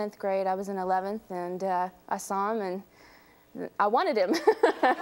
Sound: laughs

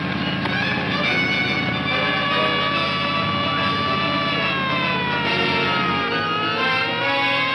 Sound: dramatic music; siren wailing

